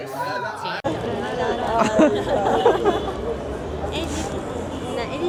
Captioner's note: laugh; cheering